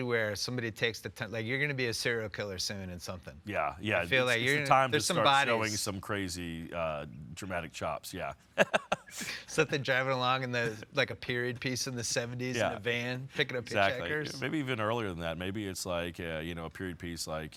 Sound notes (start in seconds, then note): 8.6 laughing